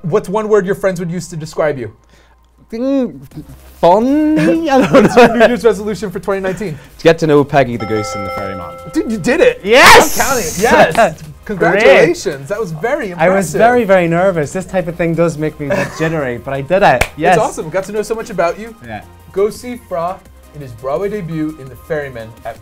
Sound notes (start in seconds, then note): 5.4 laughs; 7.8 timer dinging; 16.9 claps